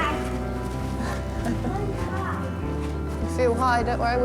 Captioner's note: chuckles